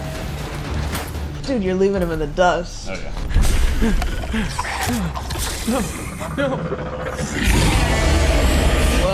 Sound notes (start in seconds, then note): 3.3 panting; 4.6 dinosaur growling and hissing